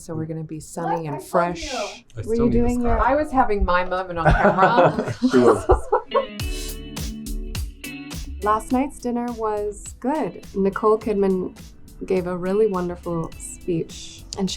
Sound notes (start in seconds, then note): 4.2 people laughing; 6.2 upbeat rock music